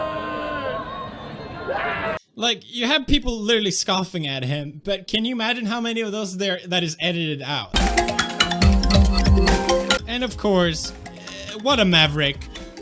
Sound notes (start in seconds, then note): none